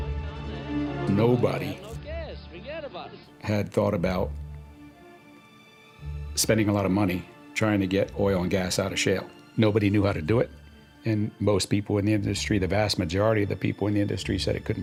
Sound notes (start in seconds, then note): none